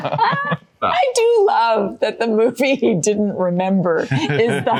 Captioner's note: laughing